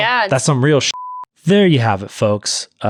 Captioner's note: beep